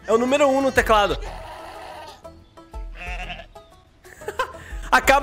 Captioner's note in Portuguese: risos